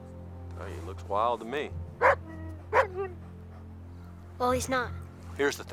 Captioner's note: Buck barks